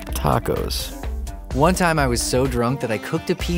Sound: voiceover

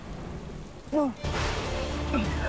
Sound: grunting

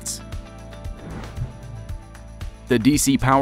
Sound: air whooshes

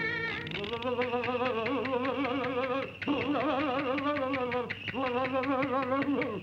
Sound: public pest no. 24 chattering teeth

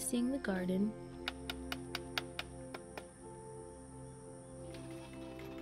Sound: hammering noise

